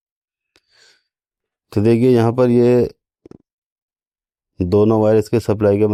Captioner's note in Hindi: नाक से की जाने वाली आवाज़